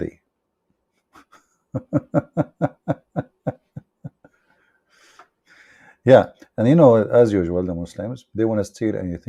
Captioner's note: Ketawa